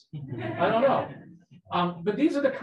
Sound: people laughing

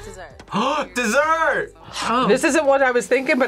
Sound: gasps

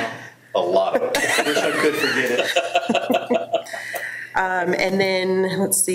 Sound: board members laughing

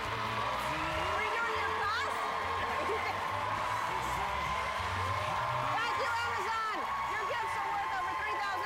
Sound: cheers and applause

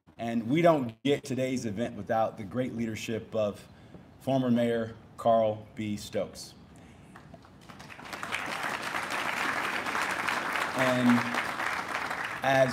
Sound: applause

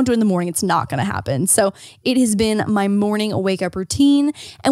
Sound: none

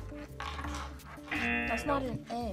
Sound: buzzer

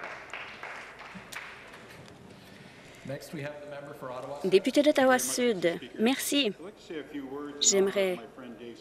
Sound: some Applause

